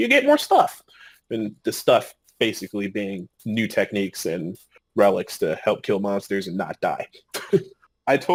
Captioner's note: laughing